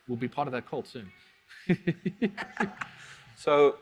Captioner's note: both laugh